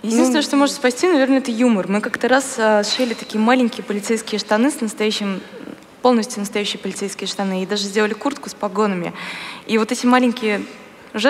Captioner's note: foreign Language